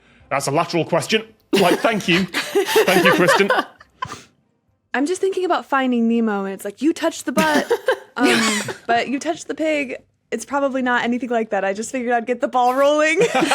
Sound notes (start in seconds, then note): 1.5 guests laughing; 7.4 giggle